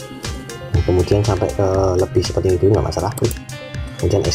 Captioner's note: click